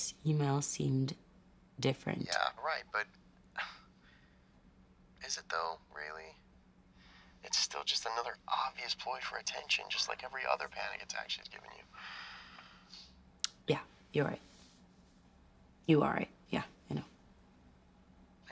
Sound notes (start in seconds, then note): 4.2 scoffs